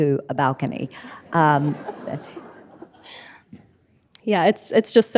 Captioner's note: audience laughing